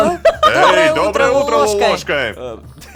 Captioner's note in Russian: хором